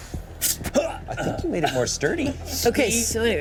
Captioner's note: grunts; whistles